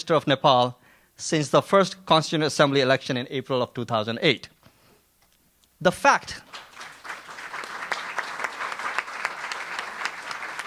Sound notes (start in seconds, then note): 6.4 audience applauds